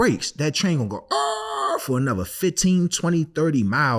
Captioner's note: screeching